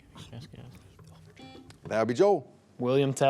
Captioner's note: buzzer beeps